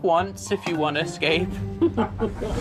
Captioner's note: chuckling